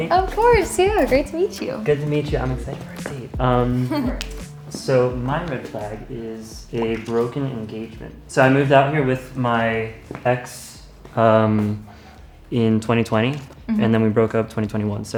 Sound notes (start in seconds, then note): 3.6 laughing